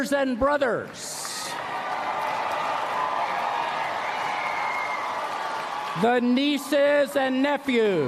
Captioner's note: applause